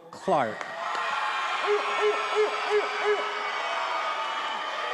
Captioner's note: attendees cheering